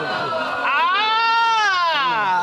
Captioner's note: crowd hooting